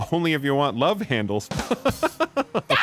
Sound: laughing

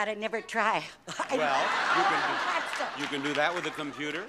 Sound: audience laughs

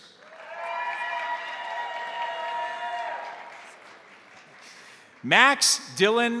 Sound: crowd applauding; crowd cheering

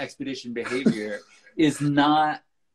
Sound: laughs

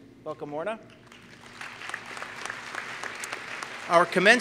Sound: applause

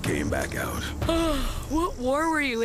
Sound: Gwen Yawning

